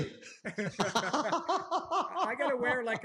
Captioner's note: laughter